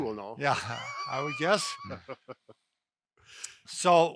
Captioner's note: laughter